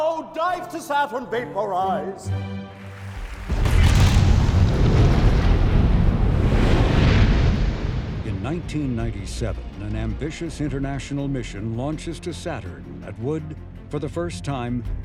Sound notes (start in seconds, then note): 2.8 audience applauding; 2.8 jet engines blasting